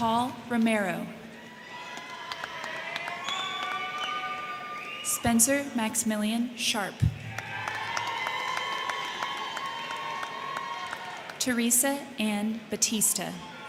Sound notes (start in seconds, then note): 1.2 crowd cheering; 1.2 crowd clapping; 7.0 crowd cheering; 7.0 crowd clapping; 13.3 crowd cheering; 13.4 crowd clapping